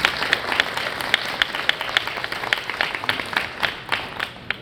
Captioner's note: clapping hands